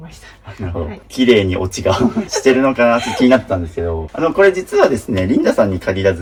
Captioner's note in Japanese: 笑い